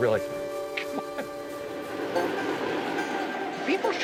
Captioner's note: train whirring